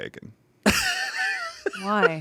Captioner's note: laughs